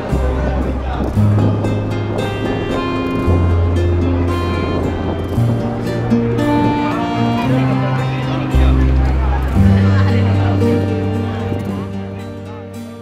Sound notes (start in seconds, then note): 3.1 gentle music continues; 7.5 people chattering